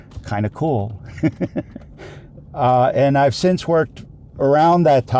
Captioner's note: giggles